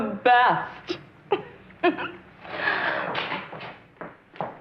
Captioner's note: laughing